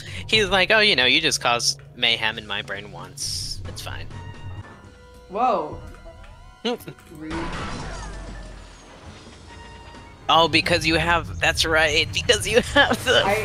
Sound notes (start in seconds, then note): 7.3 psi-blast ricochet sfx